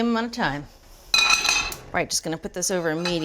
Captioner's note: cooking pan buzzing